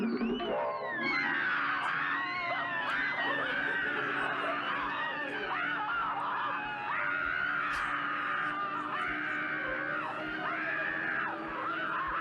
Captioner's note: screams in terror